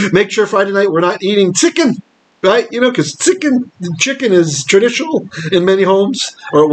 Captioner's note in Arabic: اليديشية